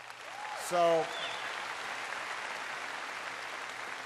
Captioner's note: applause